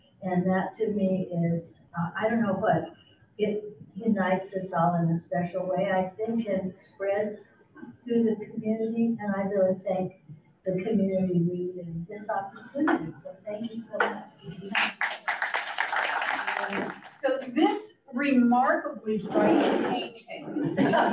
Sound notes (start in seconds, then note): 14.6 audience claps